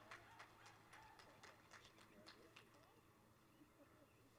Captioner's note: applause; cheering; applause